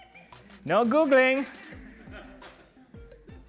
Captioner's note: laughter